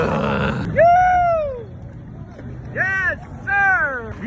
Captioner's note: yelling